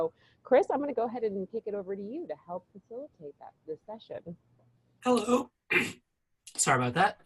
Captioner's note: coughing